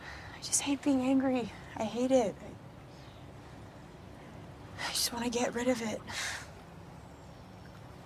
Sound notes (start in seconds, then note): 4.2 sighs